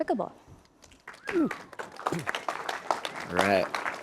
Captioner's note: audience clapping